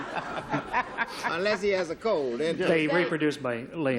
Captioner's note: laughter